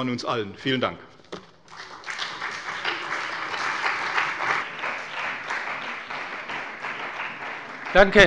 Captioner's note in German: Beifall bei der CDU und dem BÜNDNIS 90/DIE GRÜNEN